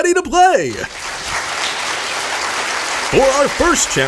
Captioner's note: audience applauds